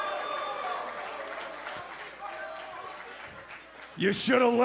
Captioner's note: cheers & applause